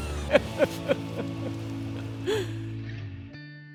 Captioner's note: laughing